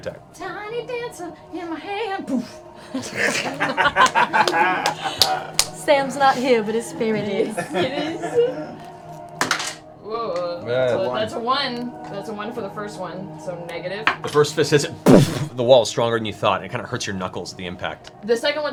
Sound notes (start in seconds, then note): 1.0 singing; 2.9 laughter